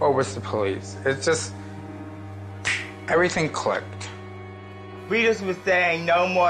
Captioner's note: makes snapping sound